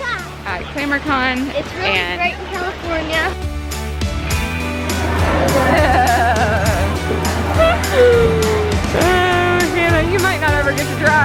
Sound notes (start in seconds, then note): 4.2 upbeat music; 5.0 laughter